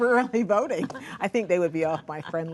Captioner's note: laughter